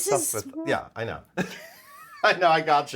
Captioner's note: laughs